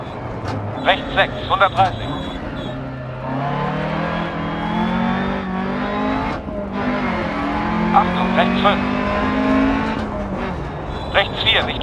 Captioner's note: engine noise and co-pilot's instructions